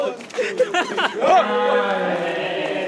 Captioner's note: shouts